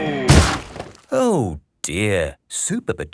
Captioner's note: crashes